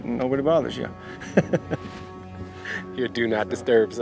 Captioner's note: Baratunde laughs; chuckles